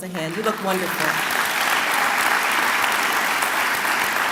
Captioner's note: clapping